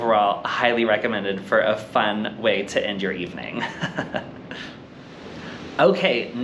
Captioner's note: giggles